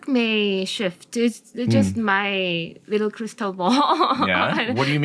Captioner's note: laughs